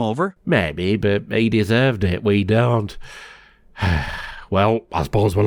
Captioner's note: sigh